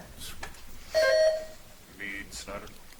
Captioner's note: buzzer chimes